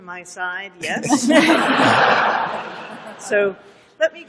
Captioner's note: laughter